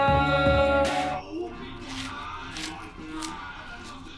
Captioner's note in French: conversations en sourdine à la télévision